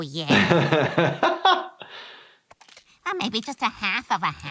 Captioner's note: he laughs